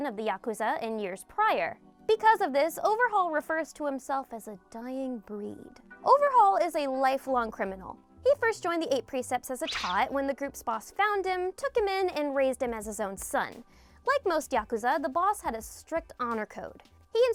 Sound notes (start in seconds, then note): none